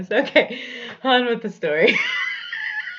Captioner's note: laughs